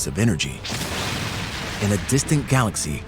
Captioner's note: explosion